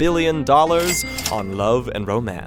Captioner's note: cash register rings